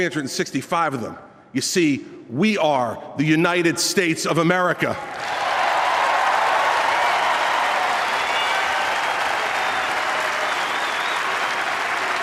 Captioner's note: applause